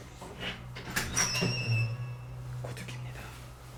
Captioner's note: the sound of opening the door